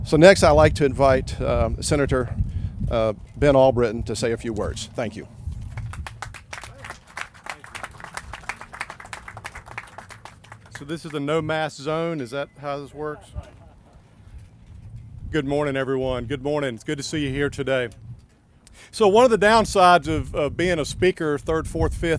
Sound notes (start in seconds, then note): 5.6 clapping